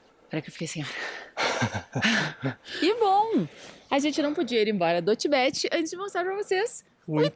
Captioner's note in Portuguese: risadas